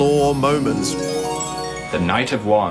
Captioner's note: sparling chime swells